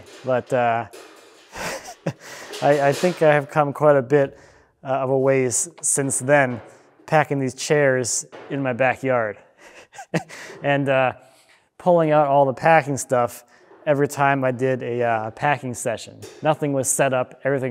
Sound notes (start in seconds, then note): 9.6 laughing